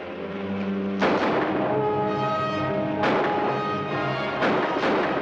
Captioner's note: guns firing